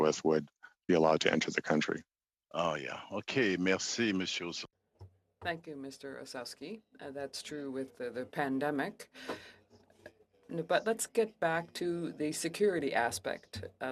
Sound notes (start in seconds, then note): 7.1 speaking French